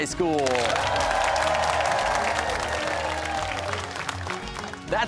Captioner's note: cheers and applause